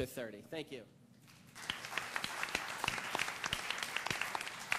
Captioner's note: applause